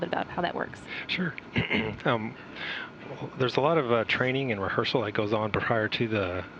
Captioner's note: clears throat